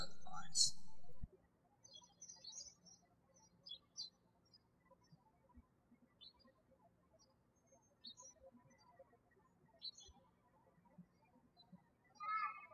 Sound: birds chirping

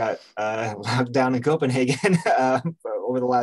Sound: chuckles

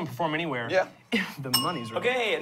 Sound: bell dings

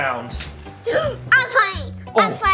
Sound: gasps

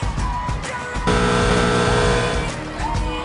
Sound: buzzers

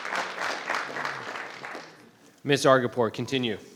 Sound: crowd clapping

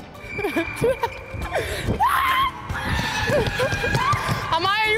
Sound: laughing and screaming

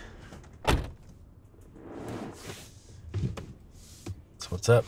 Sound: car door closes

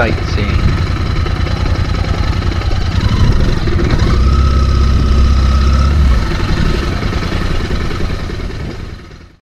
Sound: engine sound

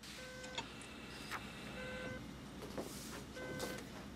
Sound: beeping

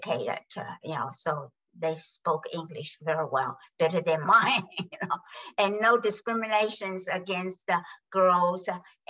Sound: laughs

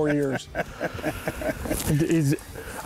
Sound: laughs

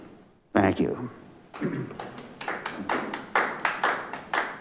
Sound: members clapping

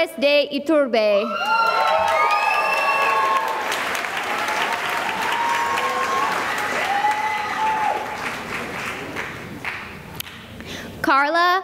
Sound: cheering and applause

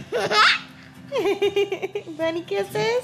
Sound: laughing; laughs

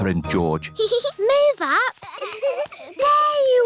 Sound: peppa giggles

